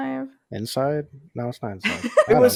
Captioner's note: laughs